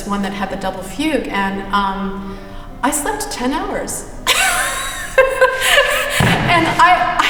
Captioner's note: laughs